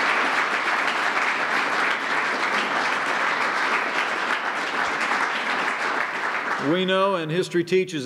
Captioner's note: applause